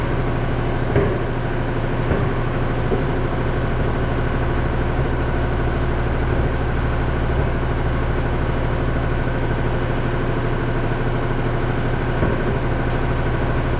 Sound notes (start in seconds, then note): 2.0 tire clanking